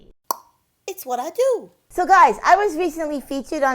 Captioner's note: clicks tongue